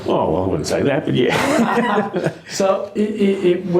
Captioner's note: laughs